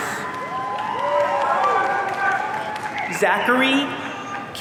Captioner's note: audience cheering